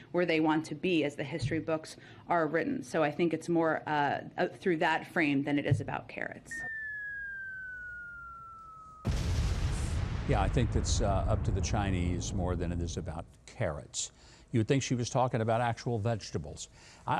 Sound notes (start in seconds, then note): 6.5 bomb whistling; 8.7 bomb exploding